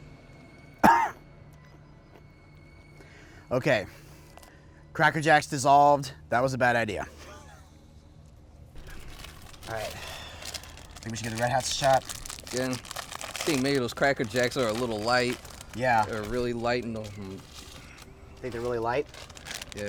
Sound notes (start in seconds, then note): 0.8 coughs